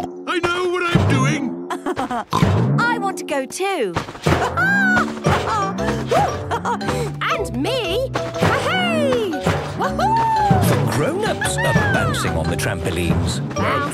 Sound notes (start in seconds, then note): 0.1 snorts; 1.6 laughs; 4.4 laughs